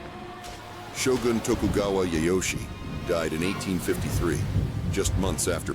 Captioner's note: thunderous explosions